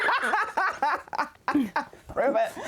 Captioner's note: laughing